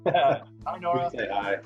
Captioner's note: laughs